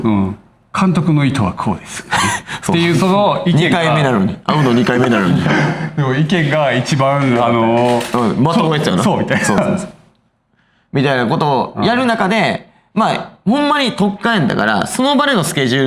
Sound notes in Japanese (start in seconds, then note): 1.8 笑い; 4.6 咳払い